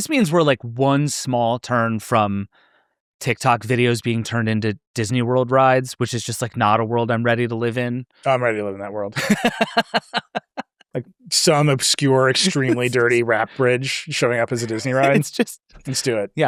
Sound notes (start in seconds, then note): 9.1 laughs